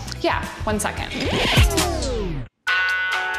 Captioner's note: record scratches